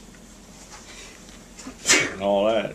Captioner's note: sneezing